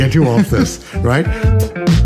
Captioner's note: chuckling